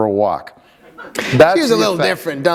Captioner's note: laughter